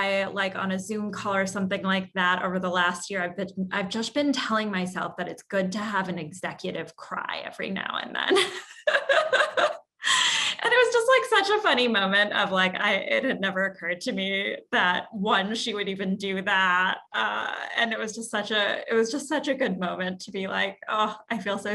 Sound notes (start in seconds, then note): 8.4 laugh